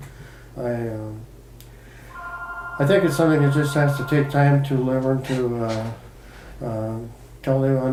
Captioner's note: phone rings in video